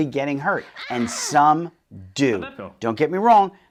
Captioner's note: woman exclaiming